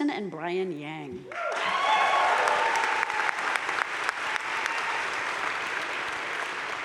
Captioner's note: crowd cheering and applauding